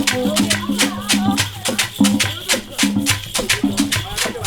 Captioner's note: horns stop